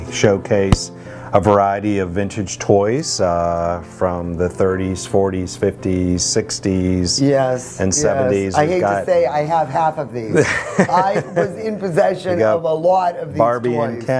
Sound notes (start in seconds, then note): 10.3 laughing